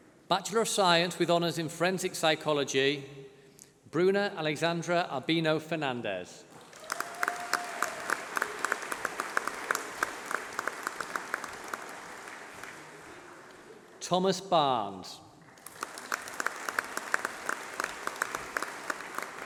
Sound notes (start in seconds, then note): 4.1 applause